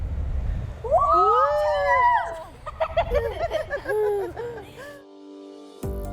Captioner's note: laughing; soft music